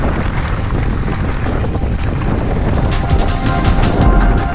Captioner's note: wind whooshing; upbeat music